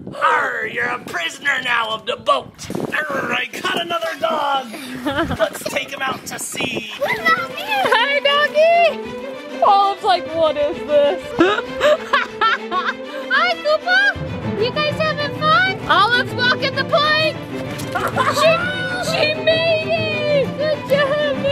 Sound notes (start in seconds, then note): 11.1 laughs